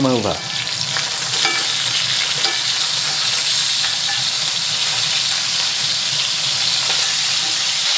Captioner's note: sizzlin